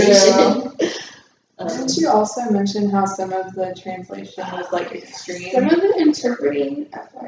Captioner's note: laughs